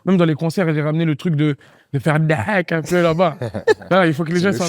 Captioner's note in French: rire